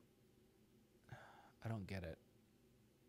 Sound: sighs

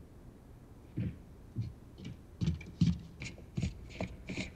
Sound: footsteps plodding

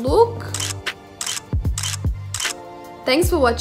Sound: chill beat music; camera shutter clicks

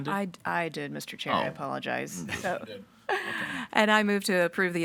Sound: laughs

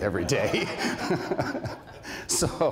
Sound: laughter

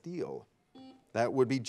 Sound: buzzer beeping

